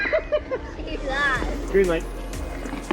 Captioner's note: laughing